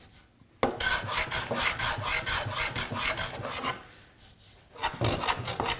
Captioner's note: blade on wood continues rhythmic scraping